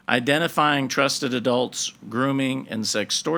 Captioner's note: none